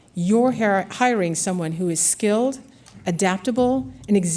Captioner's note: none